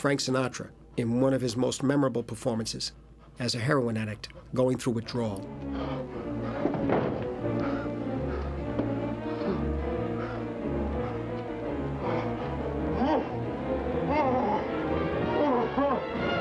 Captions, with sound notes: Here's Frank Sinatra, in one of his most memorable performances, as a heroin addict going through withdrawal. [Panting] [Moaning Intensifies]